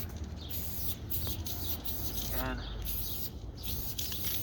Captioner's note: spray whistling